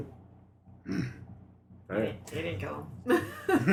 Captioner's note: negative grunt